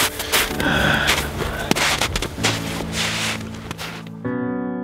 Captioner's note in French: soupirs